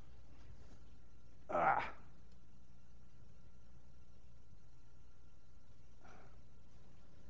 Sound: grunts

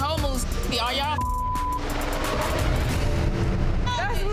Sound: beep

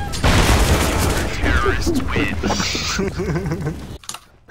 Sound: group laugh

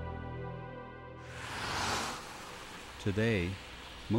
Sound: car whooshing

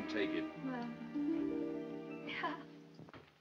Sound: giggles

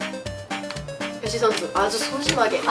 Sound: tic

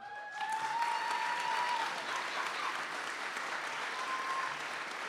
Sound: audience cheers and applauds

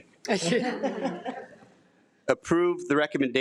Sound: trustees laugh

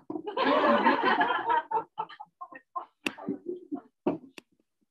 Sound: laughter

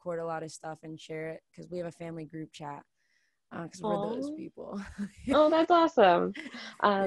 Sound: laughs

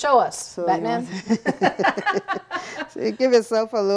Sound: laughing

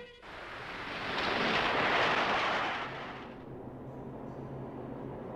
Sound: train clattering

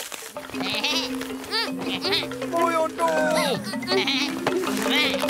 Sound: bleating

